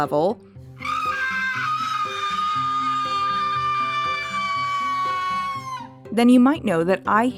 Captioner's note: long high pitch scream